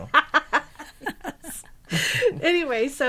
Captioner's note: laughing